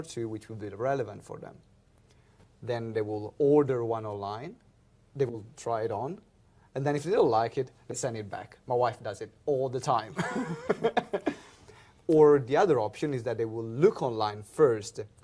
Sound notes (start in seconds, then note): 11.2 laughs